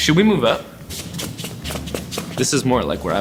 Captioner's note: feet shuffling on the floor